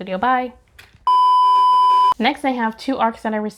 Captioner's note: beep